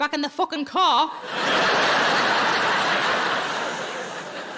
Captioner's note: audience laughing